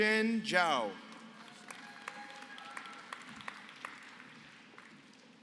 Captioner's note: applause